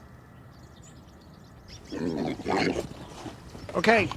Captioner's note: pigs grunting